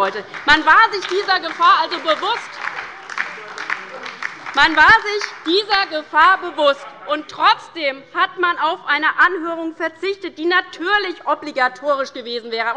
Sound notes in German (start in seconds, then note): 2.9 Beifall bei der LINKEN und der SPD